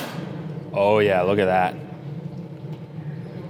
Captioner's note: burning gas hissing